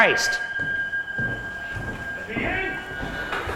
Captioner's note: bright eerie music; footsteps padding